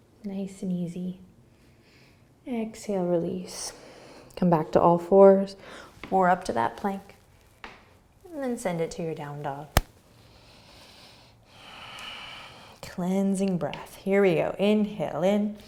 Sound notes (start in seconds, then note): 10.3 breathing